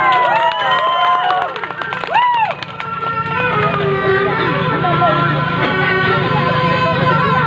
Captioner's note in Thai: ปรบมือ